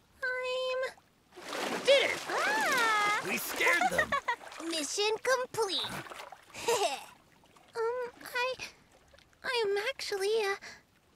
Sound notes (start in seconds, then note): 3.6 chuckles; 6.4 chuckles